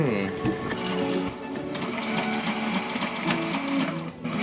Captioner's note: sewing machine whirring; upbeat music